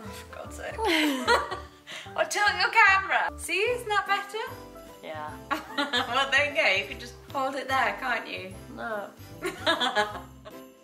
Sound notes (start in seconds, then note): 0.9 chuckling; 5.6 giggling; 9.4 laughing